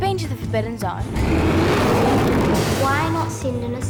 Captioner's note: loud roar